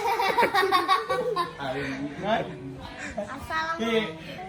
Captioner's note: giggles